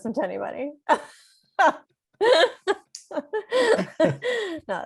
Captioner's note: laughs